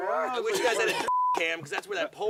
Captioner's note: beep